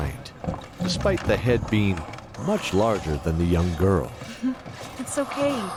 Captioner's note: laughing gently